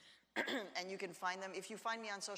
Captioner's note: clears throat